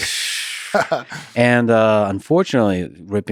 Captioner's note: Craig laughs